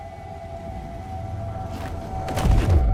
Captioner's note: wind whistling; gunshot